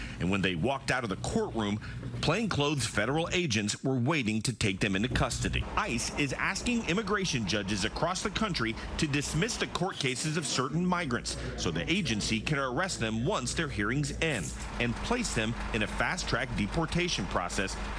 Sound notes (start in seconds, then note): none